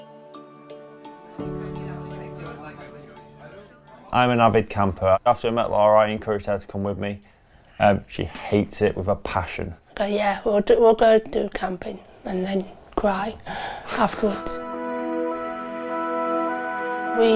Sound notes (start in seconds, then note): 13.7 chuckles; 14.2 uplifting instrumental music